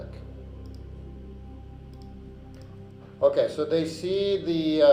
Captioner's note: mouse clicking